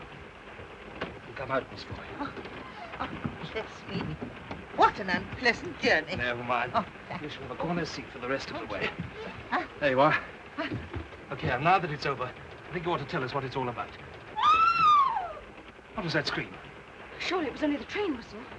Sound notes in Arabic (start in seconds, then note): 14.3 صرخة امرأة